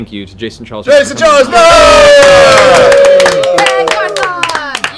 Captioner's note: cheering